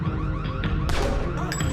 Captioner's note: gun fires